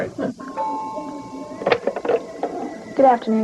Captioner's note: phone ringing